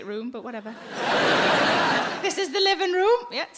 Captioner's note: audience laughing